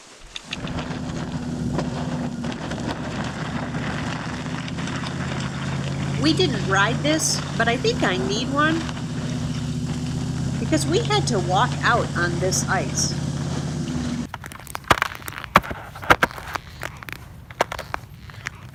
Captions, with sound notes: (boat engine revving) We didn't ride this, but I think I need one. Because we had to walk out on this ice. (ice cracking)